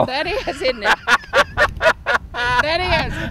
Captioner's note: laughing